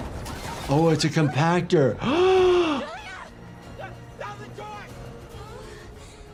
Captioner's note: gasps